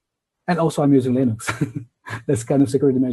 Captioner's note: laughs